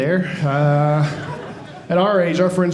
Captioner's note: audience laughing